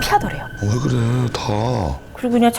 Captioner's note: sniffling